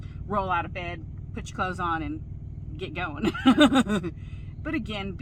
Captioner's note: laughs loudly